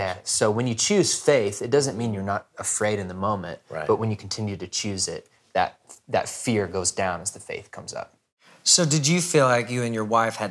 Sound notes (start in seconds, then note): none